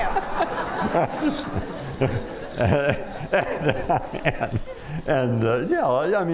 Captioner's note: laughter